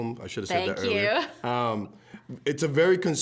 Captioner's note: chuckling